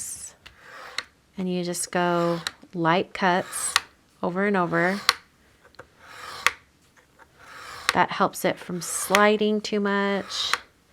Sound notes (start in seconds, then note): 3.1 blade cutting